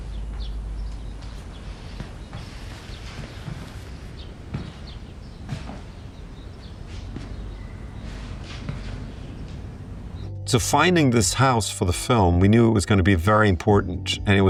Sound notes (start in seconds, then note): 3.9 birds continue chirping